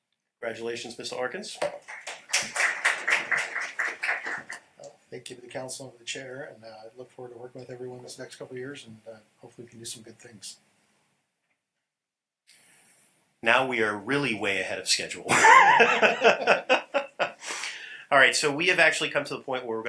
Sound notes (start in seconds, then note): 15.2 laughter